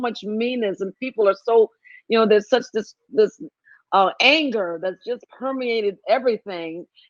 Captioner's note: none